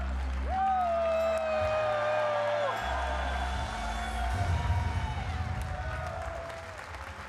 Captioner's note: audience applauding; audience cheering